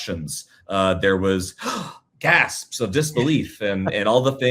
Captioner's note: gasps